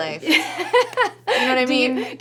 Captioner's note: laughs